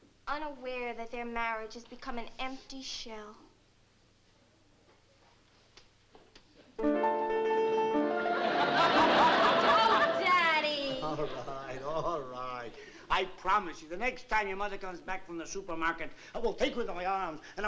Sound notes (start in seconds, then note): 8.3 laughter